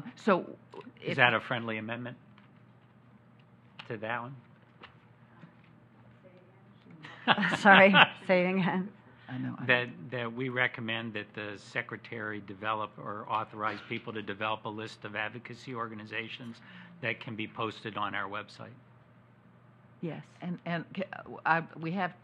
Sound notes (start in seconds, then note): 4.6 laughs